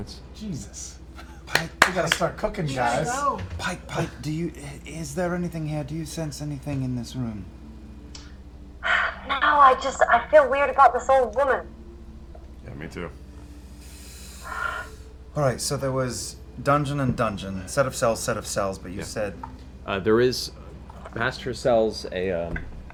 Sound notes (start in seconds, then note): 8.8 sighs